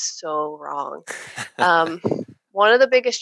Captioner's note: laughing